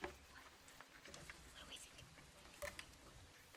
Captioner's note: team whispering